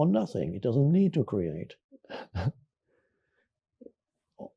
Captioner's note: chuckles